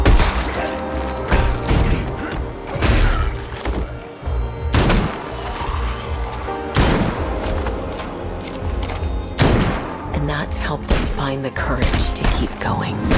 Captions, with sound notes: [grunting] [zombie growling] And that helped us find the courage to keep going.